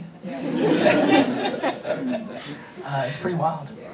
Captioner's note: audience laughing